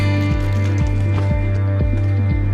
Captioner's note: bag Jangles